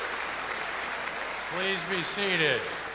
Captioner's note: cheers and applause